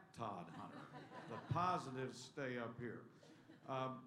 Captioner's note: laughter